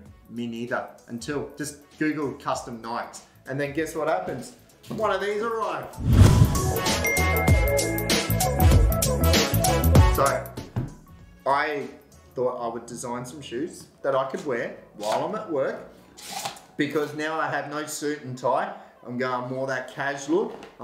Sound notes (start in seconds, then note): 7.0 ding sound; 8.8 energetic music